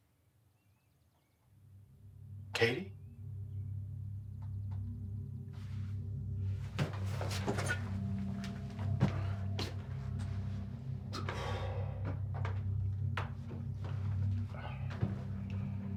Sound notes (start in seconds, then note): 3.9 mysterious music; 11.1 exhales